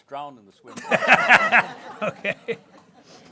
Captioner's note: people laughing